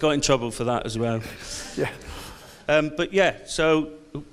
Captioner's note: audience laughs